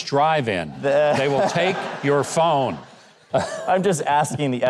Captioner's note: audience laughs